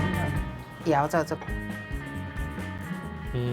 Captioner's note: speaking local language